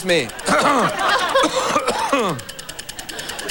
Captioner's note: coughs